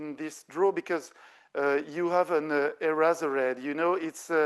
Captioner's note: speaking French